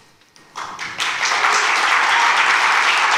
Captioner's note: applause